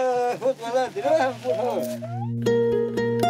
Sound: speaking in foreign language; villager speaking in foreign language; gentle music

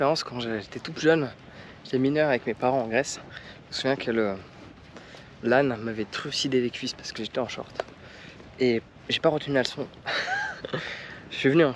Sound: speaking in foreign language

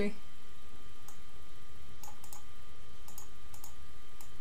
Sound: mouse clicking

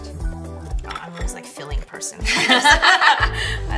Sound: laughs

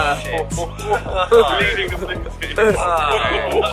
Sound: all mumbling

